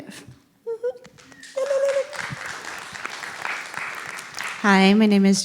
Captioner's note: applause